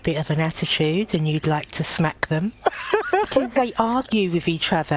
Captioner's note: laughing